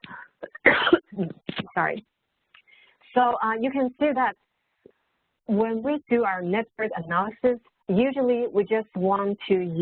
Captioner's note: coughs